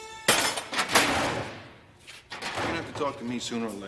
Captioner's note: locker slams